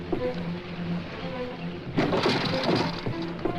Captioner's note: wheels Bump, Carriage Clatters